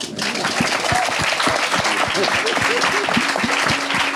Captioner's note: audience clapping